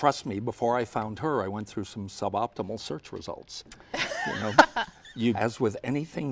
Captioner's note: laughter